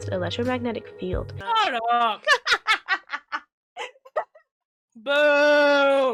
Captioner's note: laughs